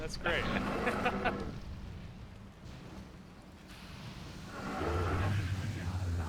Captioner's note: laughs